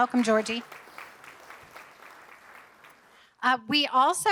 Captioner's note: audience applauding